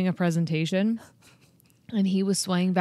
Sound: chuckles

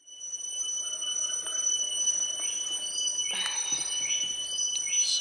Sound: the whining noise is from bugs

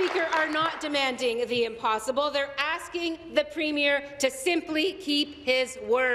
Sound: applause

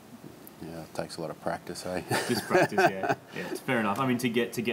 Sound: laughs

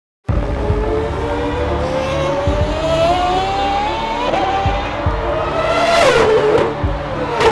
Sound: car engine sound

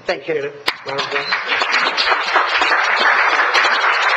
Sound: applause

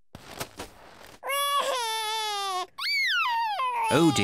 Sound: crying

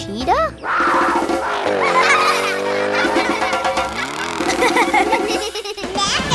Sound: laughing

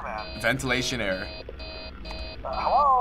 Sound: in game: alarm goes off

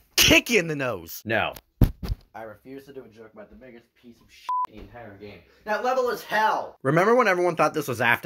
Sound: drops mic

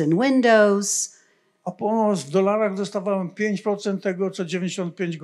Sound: foreign language

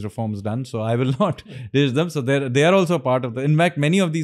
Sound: chuckles

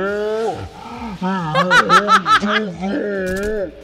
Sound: laughs

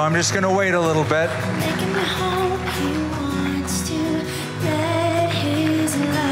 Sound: applause and music continues

